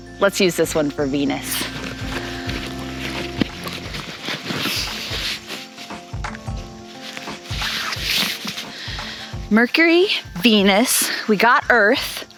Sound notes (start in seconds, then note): 1.3 bag rattling